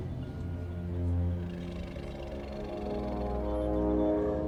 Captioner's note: low growl